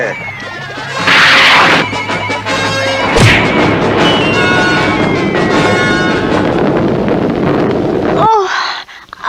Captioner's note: smack!